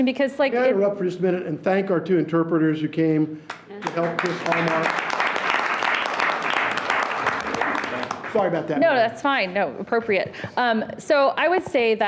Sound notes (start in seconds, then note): 3.7 audience applauds